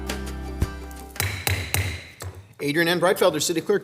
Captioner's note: gavel bangs